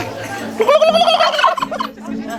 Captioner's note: turkey cry; imitation turkey cry